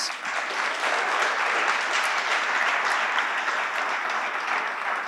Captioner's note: audience applauding